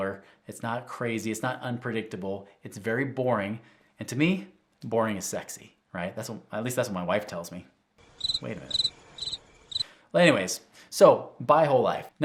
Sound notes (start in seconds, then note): 8.1 crickets chirping